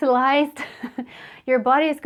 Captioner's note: laughs